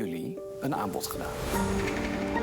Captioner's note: knocking